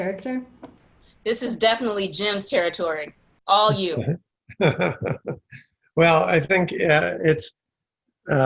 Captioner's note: laughs